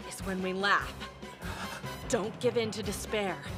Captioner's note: gasp